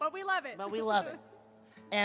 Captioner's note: none